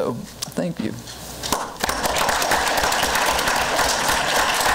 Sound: crowd applause

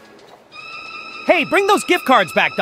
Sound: theft alarm blares

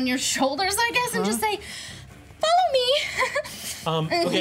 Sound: chuckles

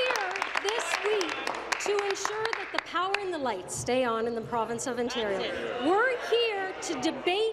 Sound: applause

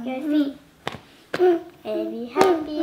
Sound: hands tapping

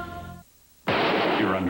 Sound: gunshot

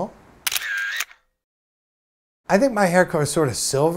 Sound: camera takes photo

